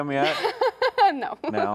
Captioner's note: laughs